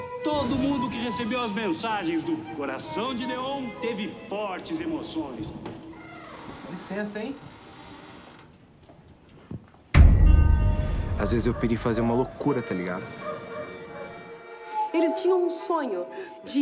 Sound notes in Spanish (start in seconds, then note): 5.9 chirrido; 9.9 estallido